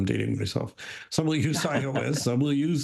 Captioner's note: chuckles